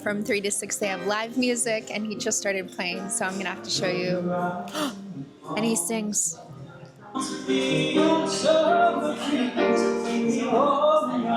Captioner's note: gasp